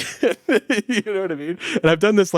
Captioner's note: laughing